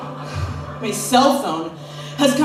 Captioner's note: laughter; sighs